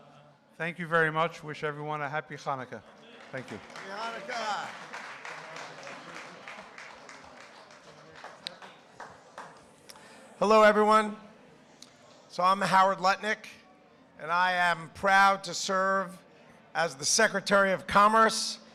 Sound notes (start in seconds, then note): 4.4 applause